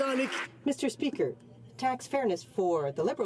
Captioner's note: some Applause